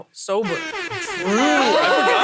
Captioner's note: horn blowing